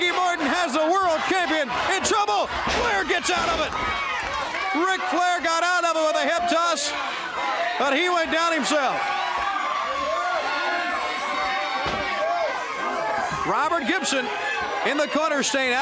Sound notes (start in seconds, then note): 9.3 crowd cheering